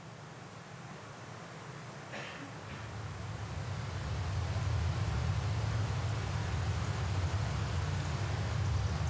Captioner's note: trees rustling in the wind